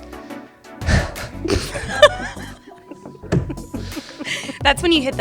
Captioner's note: laughter